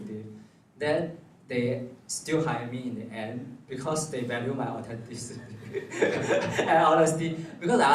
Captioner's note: laughs